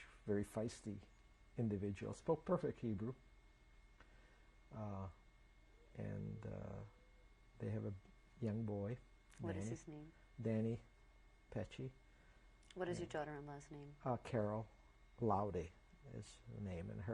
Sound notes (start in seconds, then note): 3.1 pauses for 3 seconds